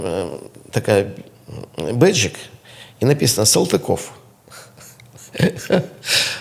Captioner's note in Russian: фыркает; смех